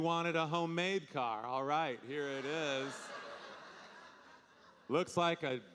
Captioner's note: audience laughing